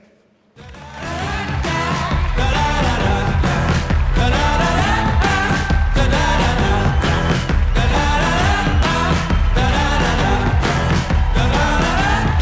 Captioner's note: applause